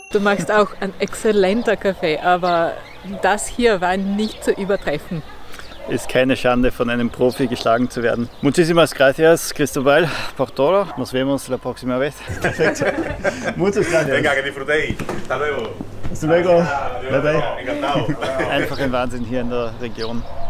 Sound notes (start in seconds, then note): 12.2 laughter